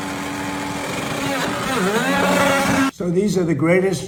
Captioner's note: impact wrench rattling; engine revs